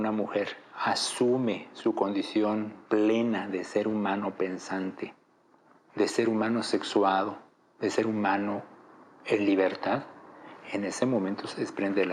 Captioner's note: speaking in Spanish